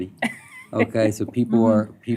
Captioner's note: laughter